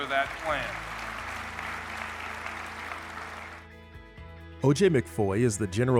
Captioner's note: audience applauding